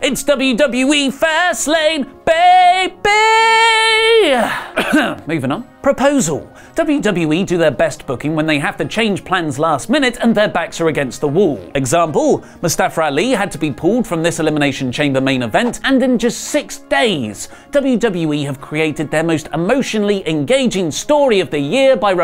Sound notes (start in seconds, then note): 4.0 cough